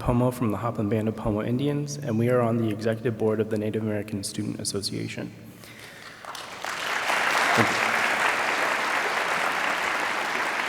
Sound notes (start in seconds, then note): 5.8 audience applauds